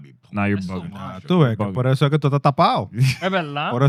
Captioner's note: speaking Spanish